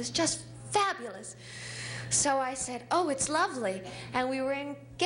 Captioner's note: none